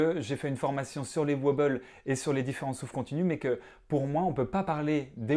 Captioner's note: in French only